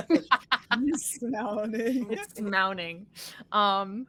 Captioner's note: chuckling